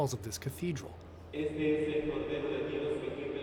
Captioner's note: priest talking